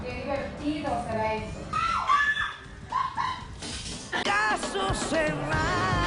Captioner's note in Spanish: Gritos